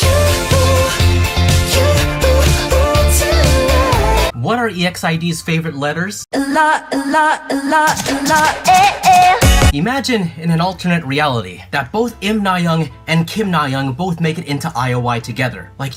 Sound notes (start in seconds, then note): 7.9 doo doo